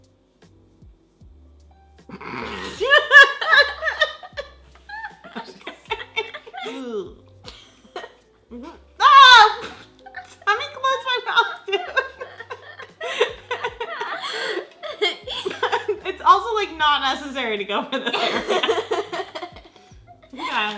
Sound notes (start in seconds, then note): 2.1 laughs; 9.0 screaming; 12.4 laughs; 18.0 laughs